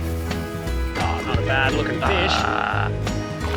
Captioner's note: trills